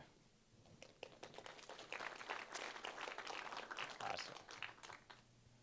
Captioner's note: applause